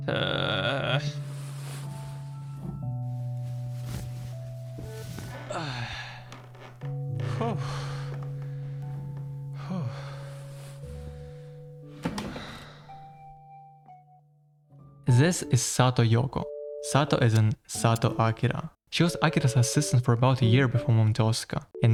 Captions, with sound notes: "Ueehhhh." *bedsheet rustling* *bedsheet rustling* "Aghhh". *floor creaking* "Phew". *bedsheet rustling* *chair creaking* This is Sato Yoko, "Sato" as in "Sato Akira". She was Akira's assistant for about a year before moving to Osaka